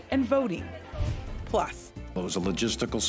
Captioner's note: whooshes